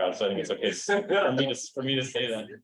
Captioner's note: chuckles